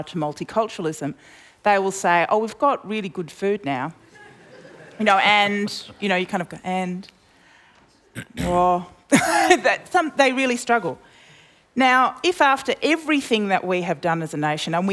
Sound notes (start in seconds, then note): 4.1 laughter; 10.2 laughs